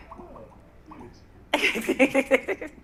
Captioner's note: laughs